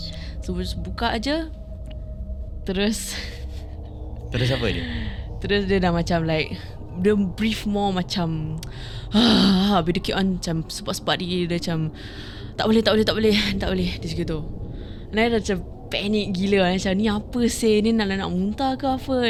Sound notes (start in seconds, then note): 8.7 growling